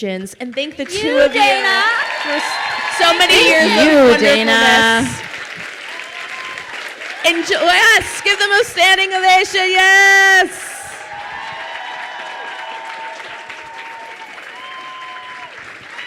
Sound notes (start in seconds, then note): 2.2 crowd cheers and applauds; 10.4 crowd cheering and applauding